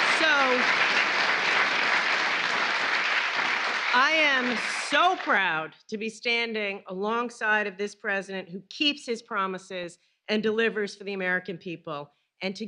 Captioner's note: applause